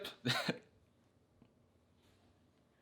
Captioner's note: laughs